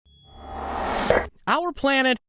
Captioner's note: whooshing